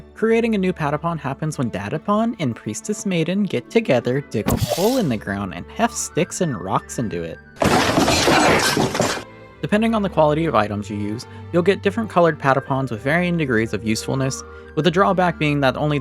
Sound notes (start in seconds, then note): 7.6 hefting stick and rocks into hole noises